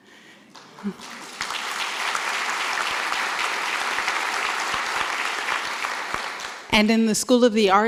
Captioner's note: applause